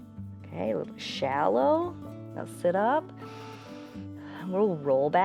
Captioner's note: inhales